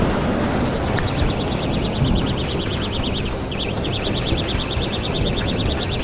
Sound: the bite alarm and the sound of the drag sounding

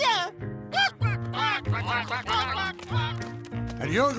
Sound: ducks quacking

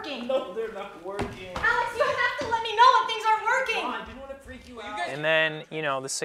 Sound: yelling

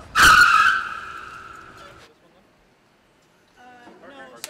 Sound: tires squealing

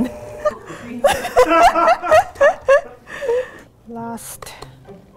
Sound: laughs

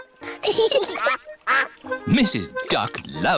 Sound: both giggling

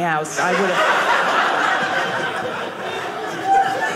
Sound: audience laughing

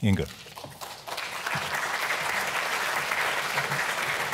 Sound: applause

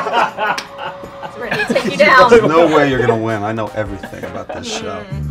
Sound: laughing

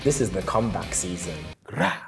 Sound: growls

